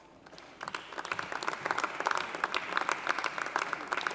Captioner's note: audience applauding